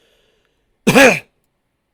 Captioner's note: cough